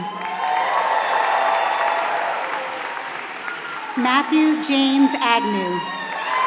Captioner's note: applause